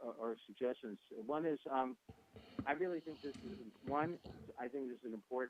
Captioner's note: talks off mic